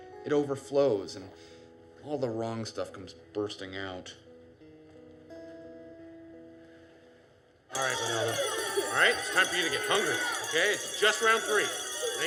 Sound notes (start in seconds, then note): 7.7 bell rings